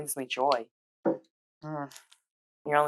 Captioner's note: noncommital noise